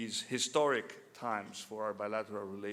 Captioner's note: none